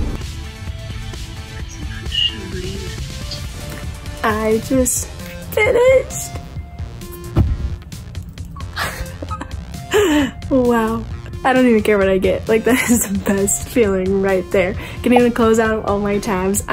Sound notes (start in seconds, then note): 0.0 upbeat music; 8.5 chuckles